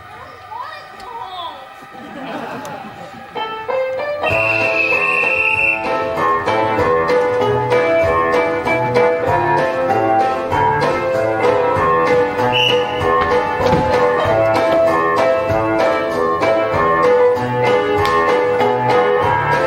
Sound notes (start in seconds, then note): 4.2 whistle blows; 6.0 whimsical 1920's music; 12.4 whistle blows; 13.6 whimsical 1920's music